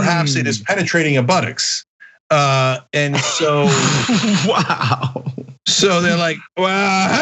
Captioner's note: laugh